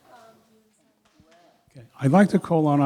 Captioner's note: murmuring